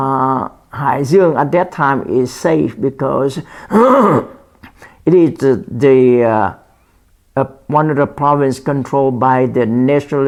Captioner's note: clears throat